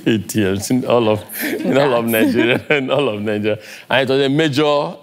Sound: laugh

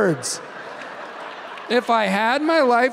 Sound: audience laughing

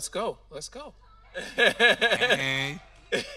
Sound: laughing

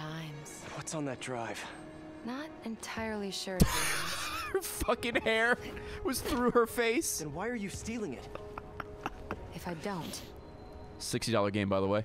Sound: laughs

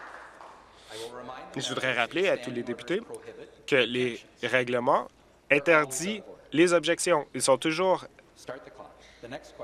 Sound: applause

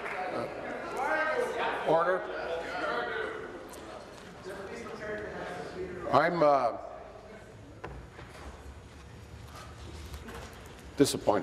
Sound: applause

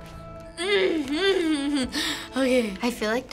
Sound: grumbling

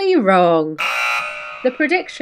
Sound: buzzer buzzing

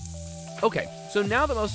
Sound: sizzling

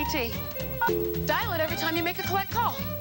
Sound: tone

